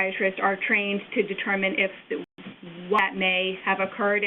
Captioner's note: audio skips